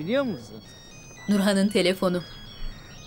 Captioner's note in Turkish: Telefon zili